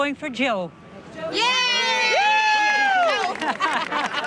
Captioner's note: crowd cheers